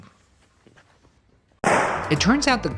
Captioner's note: firecracker pops